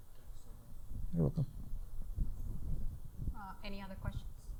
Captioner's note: speaking faintly